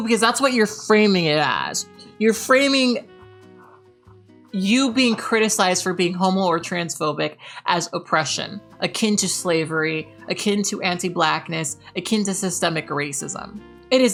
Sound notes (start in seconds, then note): none